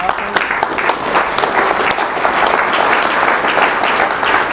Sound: applause

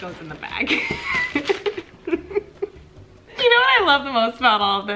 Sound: laughing

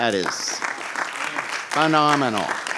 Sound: clapping

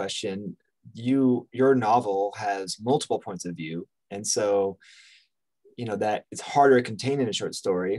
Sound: inhales

